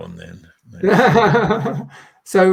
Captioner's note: laughing